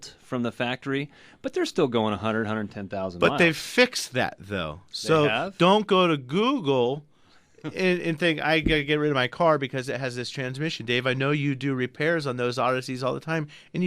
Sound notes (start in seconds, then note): 7.7 laughs